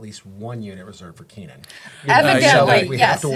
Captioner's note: laughing